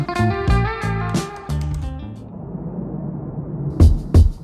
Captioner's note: computer keys typing; energetic music